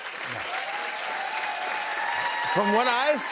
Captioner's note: cheers and applause